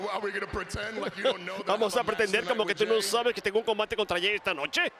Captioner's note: laugh